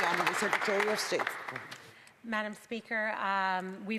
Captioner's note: some Applause